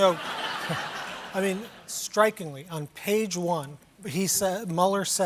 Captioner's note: laughter